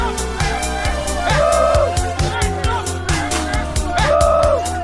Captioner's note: yelling